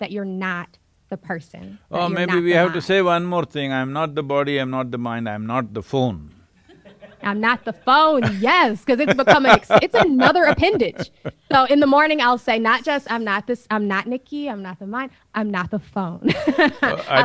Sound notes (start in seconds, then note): 6.6 few laugh; 6.6 Sadhguru laughs; 16.3 laughs